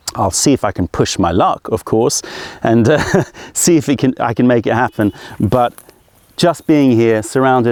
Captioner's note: laughter